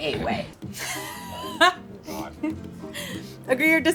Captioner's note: laughing